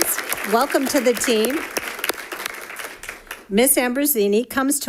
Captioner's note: audience applauding